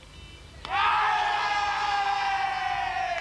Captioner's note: players cheering